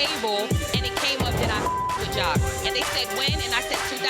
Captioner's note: beep